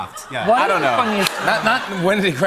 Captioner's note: laughter